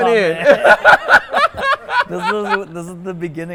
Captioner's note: speakers laughing